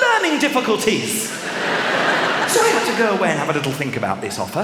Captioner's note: laughter